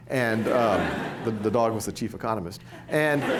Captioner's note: laughter